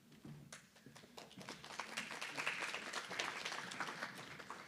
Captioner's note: applause